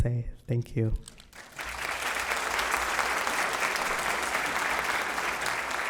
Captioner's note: audience applauding